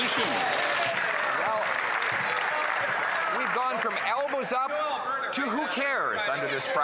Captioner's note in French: voix de l'interprète